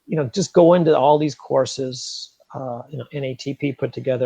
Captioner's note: none